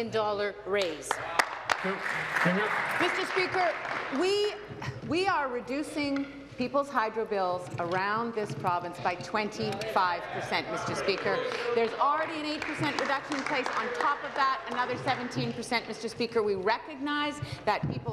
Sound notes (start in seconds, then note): 4.5 applause